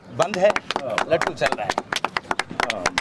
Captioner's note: applause